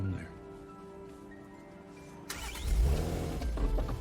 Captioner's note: engine starts